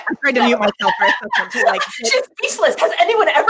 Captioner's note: laughing